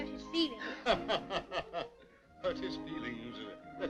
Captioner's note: laughing